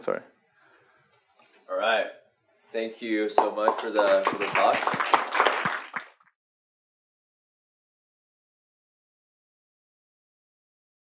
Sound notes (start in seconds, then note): 4.8 applause